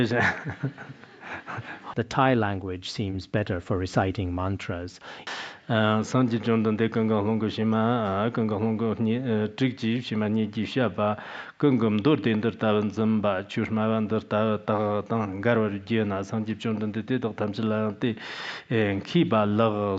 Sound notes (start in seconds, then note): 5.4 giving oral transmission in Tibetan